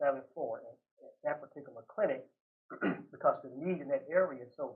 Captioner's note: clears throat